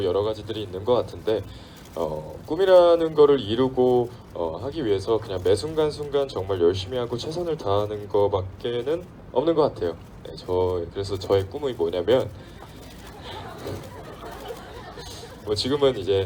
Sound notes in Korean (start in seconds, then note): 10.9 웃음